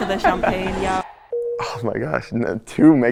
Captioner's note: bell dings